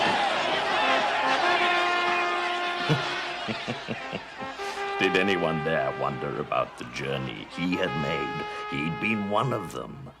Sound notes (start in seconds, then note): 2.7 narrator chuckling